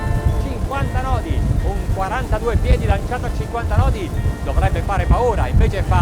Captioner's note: speaking foreign language